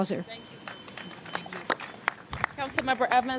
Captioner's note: applause